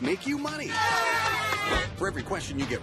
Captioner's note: cheering